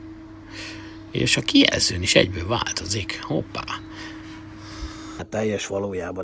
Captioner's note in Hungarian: zihálás